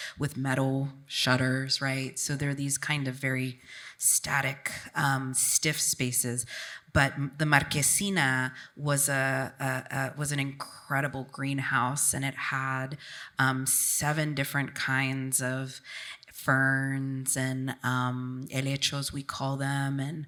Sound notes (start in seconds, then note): none